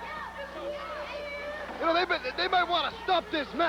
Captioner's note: crowd chatter